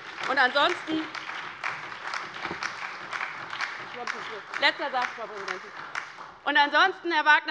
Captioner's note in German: Beifall bei der LINKEN und der SPD